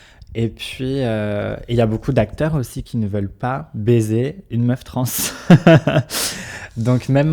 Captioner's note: laughs